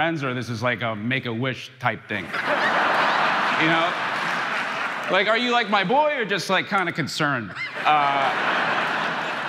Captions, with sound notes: or this is, like, a Make-A-Wish type thing, (crowd laughing) you know? Like, are you, like, my boy? Or just, like, kinda concerned. (crowd laughing)